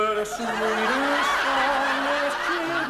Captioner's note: audience laughs